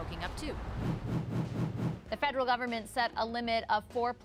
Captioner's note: whoosh